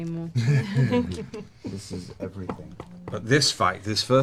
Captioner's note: laughter